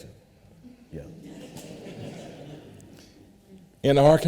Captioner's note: audience laughter